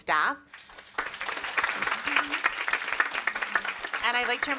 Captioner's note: audience applauds